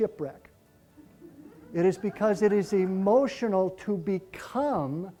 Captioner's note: laughter